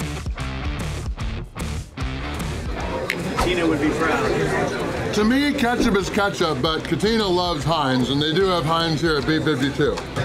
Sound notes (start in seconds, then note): 1.5 crowd